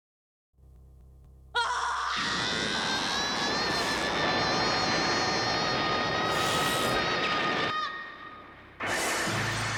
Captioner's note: screams in australian cat